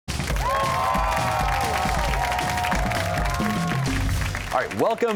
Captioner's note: cheers and applause